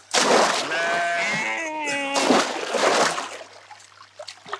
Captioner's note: baa